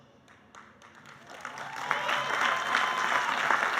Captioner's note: applauding